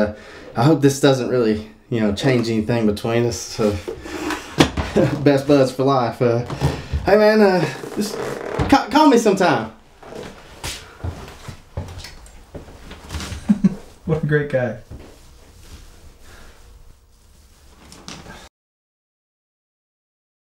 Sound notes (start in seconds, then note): 13.2 chuckles